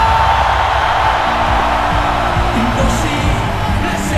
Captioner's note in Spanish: Ovación